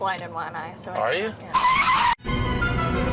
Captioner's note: brakes screech; terrified music